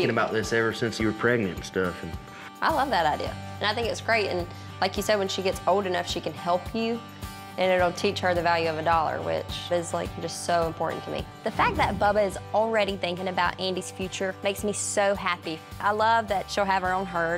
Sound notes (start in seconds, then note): none